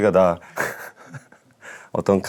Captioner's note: hesitating